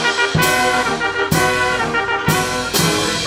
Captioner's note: none